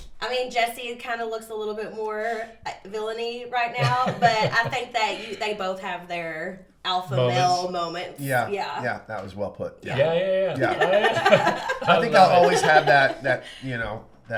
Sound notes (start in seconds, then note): 3.8 laughs; 10.4 laugh